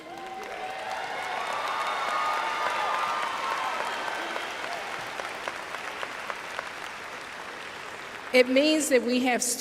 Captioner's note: cheers/applause